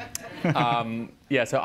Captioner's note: chuckles